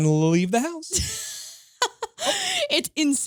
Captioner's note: laughing